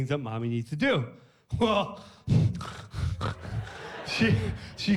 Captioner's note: laughs